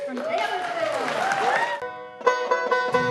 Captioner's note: audience cheering; bluegrass music